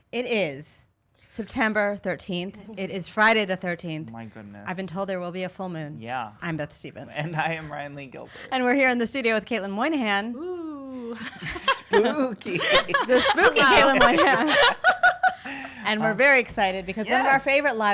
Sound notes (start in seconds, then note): 11.1 laughs